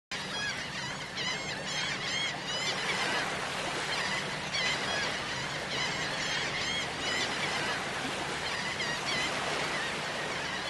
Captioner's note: seagulls Cawing